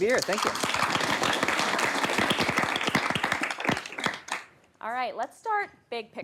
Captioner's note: applause